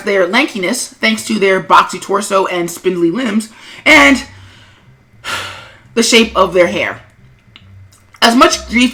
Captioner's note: sigh